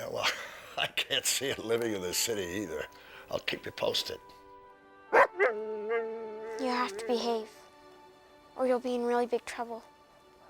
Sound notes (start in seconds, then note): 5.1 Buck barking